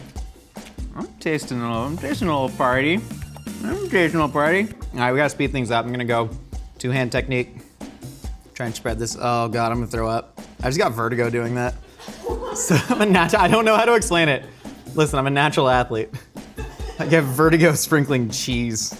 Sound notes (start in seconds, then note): 3.1 upbeat Music; 11.8 laughing